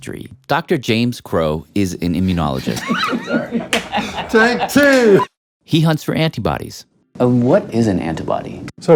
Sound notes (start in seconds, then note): 2.6 laughing